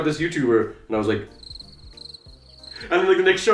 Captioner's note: crickets chirping